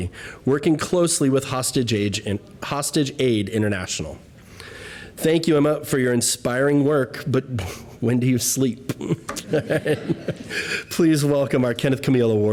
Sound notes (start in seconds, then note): 8.9 laughter